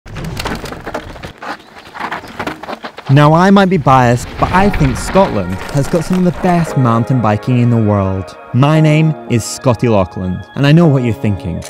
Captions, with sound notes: (bike thudding) - Now, I might be biased, but I think Scotland has got some of the best mountain biking in the world. My name is Scotty Laughland, and I know what you're thinking: